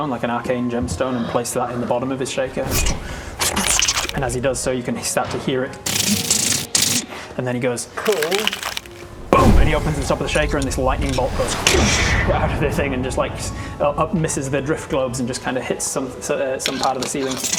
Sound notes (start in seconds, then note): 12.0 doosh!